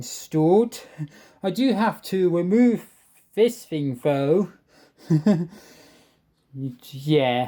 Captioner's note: chuckles